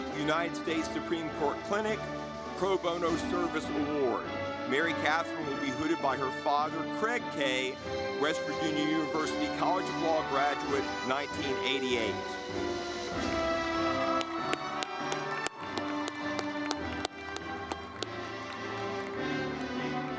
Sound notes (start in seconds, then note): 13.2 audience clapping